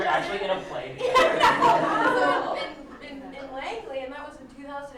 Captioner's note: laughter